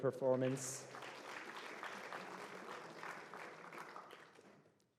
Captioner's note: applause